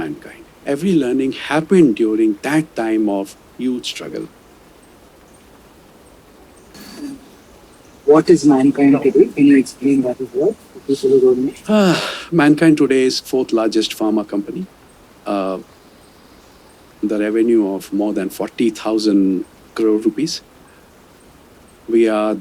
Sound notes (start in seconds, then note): 11.6 sighs